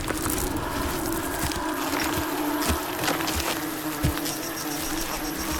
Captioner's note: insects trilling